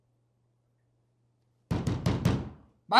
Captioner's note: door banging